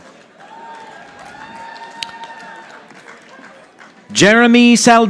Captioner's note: audience applauding